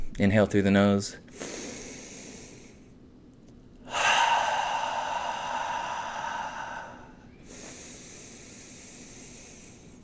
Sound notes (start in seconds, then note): 1.7 heavy breathing